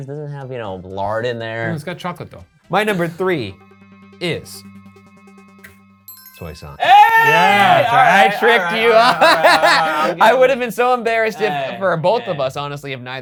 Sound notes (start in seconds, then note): 4.6 suspenseful music; 6.1 list chimes; 6.8 exclaiming; 9.5 laughs